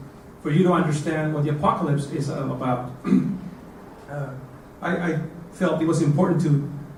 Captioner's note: cough